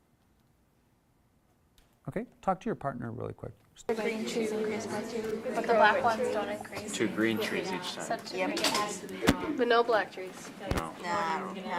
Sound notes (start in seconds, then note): 4.0 group chatter